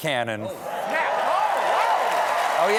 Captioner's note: cheers and applause